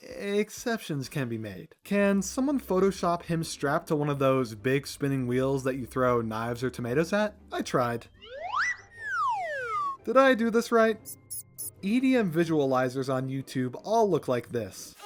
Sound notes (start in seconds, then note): 8.2 slide whistles; 11.0 mouse squeaks